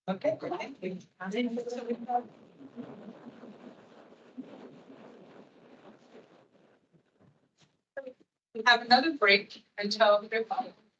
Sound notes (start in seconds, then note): 3.5 static crackling